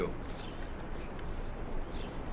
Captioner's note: birds chirping